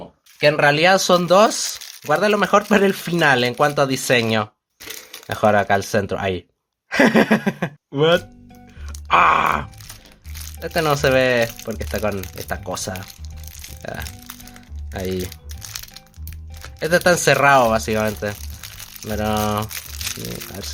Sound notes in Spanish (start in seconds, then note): 6.9 Risas